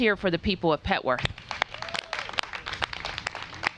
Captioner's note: applause